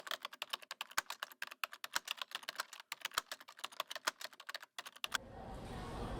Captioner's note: typing